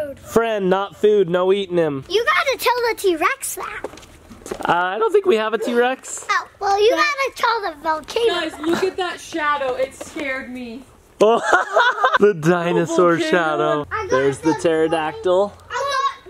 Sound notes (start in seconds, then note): 11.2 laughing